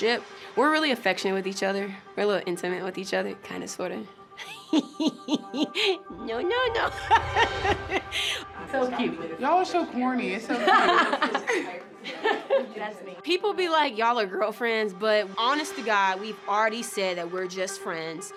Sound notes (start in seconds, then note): 4.4 laughs; 12.0 laughing